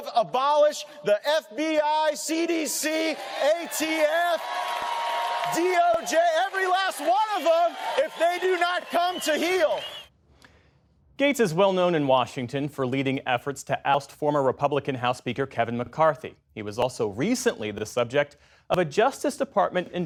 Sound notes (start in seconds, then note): 11.1 cheering